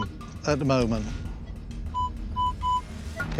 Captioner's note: beeping